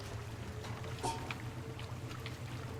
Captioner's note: scoffs